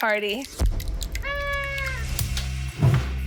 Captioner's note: blasting; party horn blows